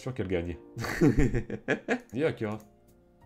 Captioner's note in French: Rires